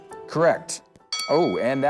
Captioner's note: ding